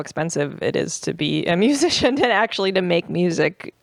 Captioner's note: laughs